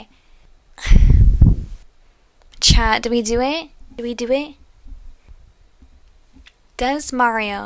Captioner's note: sigh